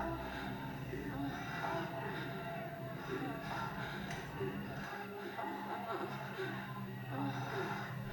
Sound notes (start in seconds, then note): 1.9 people moaning